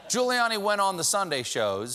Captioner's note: laughter